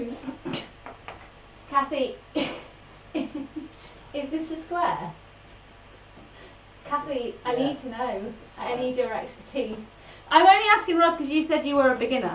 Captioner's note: laughs